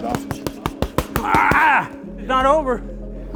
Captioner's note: grunting